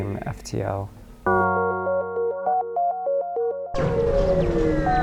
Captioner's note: video game noises